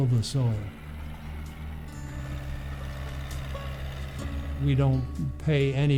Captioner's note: tractor engine roars